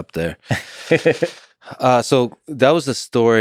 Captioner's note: Tim laughs